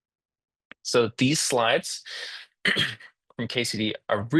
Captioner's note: interpreter clears throat